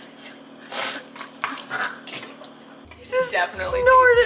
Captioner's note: snorting